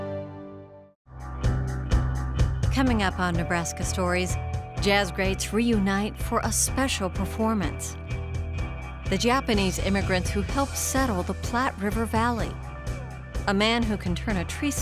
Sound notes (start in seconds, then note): 3.7 voiceover